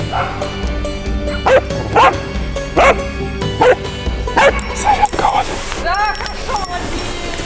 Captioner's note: dog barking